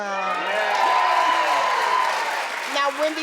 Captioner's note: crowd cheers